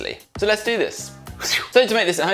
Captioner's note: makes whooshing sound